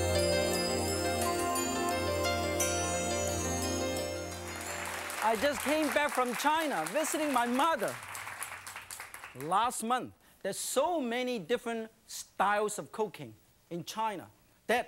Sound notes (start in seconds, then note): 0.0 happy music plays; 4.2 clapping